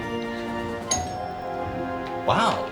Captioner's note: doorbell rings